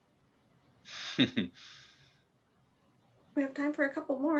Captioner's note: chuckles